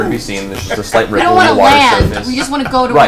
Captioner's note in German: lacht